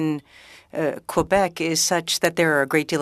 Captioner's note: speaking French